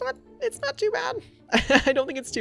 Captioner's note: laughs